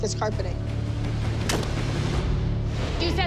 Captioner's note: crunch